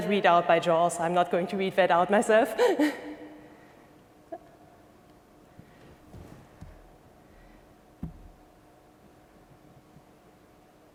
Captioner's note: laughing